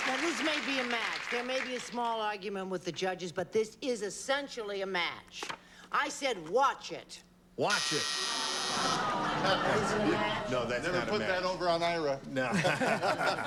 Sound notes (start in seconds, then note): 7.7 buzzer; 8.3 audience groans